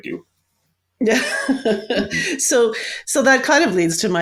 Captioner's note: laughs